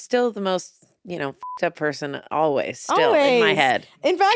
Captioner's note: beep